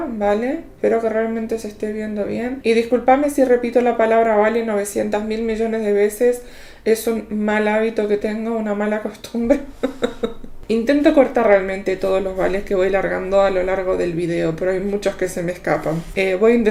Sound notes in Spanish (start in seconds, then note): 9.5 risas